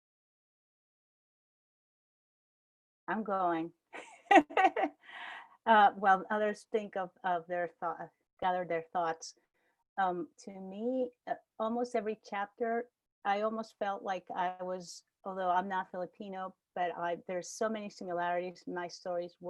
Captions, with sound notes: I'm going [laugh] while, others think of, or gather their thoughts. To me, almost every chapter, I almost felt like I was, although I'm not Filipino, but I there's so many similarities in my stories,